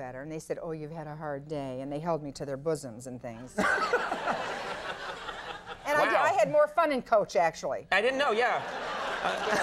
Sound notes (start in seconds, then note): 3.6 audience laughing; 9.4 audience applauding